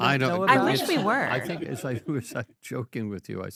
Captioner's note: audience laughing